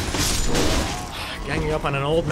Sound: sigh

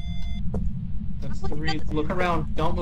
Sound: beeping stops

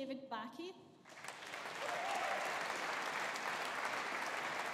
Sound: audience applauding

